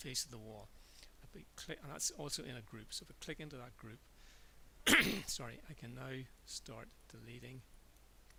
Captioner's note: cough